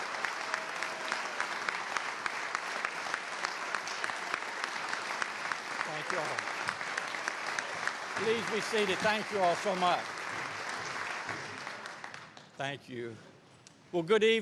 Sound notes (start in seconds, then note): 2.3 applause